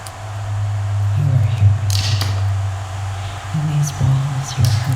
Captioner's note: whispering